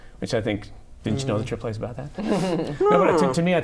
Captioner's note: laughter